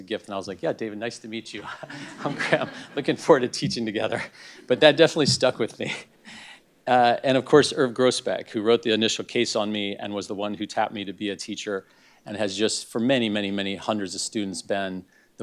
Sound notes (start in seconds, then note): 1.6 laugh